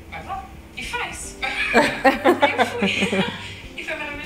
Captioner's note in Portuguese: risos